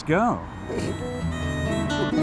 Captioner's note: laughs